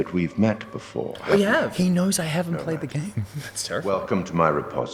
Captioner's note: gasp